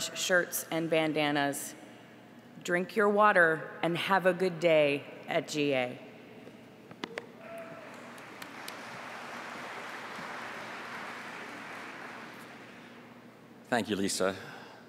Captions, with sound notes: LOOK, AS ALWAYS, FOR OUR ORANGE SHIRTS AND BANDANNAS. DRINK YOUR WATER AND HAVE A GOOD DAY AT GA. [APPLAUSE]